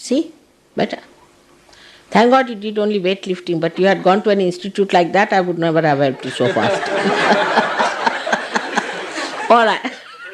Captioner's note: laughter